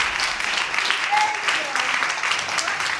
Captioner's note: audience applauding